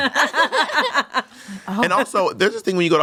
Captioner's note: everyone laughs